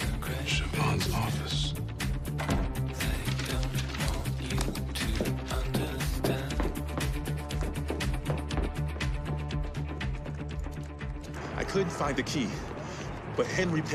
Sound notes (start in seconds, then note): 2.3 door shuts